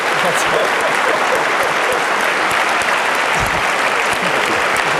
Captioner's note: applause